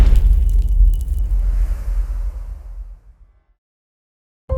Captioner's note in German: impact